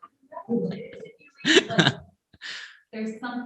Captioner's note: teens laughing